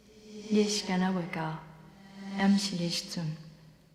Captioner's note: speaking Taiwanese